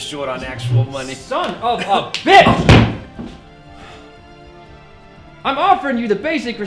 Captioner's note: chair thuds